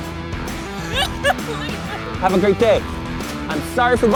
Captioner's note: laughs